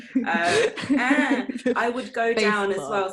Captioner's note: giggles